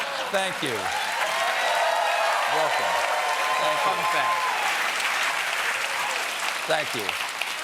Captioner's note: cheers and applause